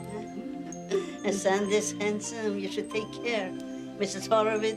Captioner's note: chuckles